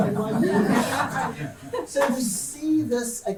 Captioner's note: audience laughing